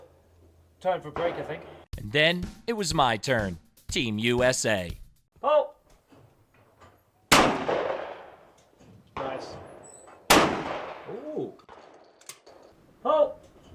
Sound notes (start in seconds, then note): 1.9 upbeat music; 6.5 gun shooting